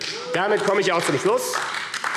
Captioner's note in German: Beifall AfD